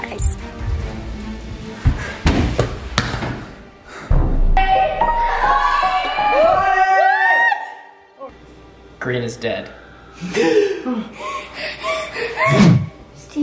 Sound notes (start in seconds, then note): 6.2 group shouting; 9.8 Red breathing heavily